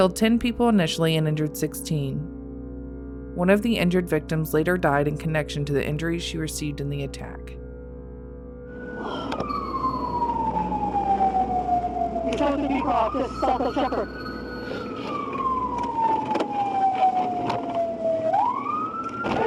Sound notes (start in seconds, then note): 8.8 police Sirens